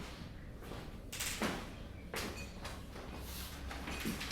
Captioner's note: none